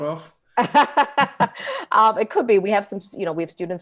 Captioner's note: laughing